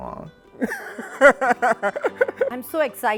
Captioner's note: speaker laughs